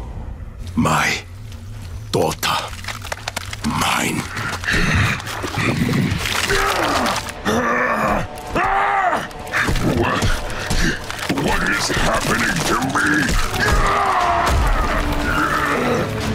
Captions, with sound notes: My daughter. Mine. [screaming] What? What is happening to me? [groaning]